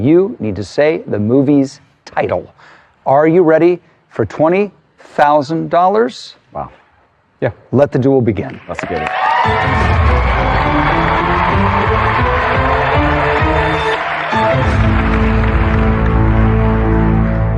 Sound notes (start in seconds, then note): 9.5 cheering and applause; 12.0 dramatic music